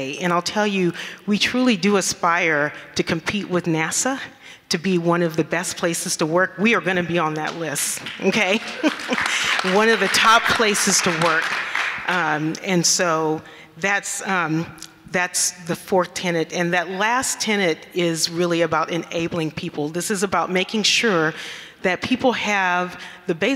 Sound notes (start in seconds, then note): 8.0 audience clapping